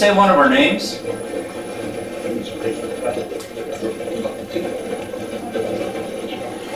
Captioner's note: static playback transmitting